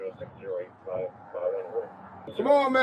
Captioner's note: radio chatter